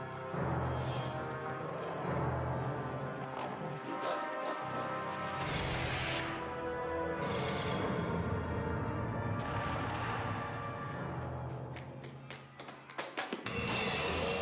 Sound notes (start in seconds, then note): 2.2 growling; 12.1 glass shattering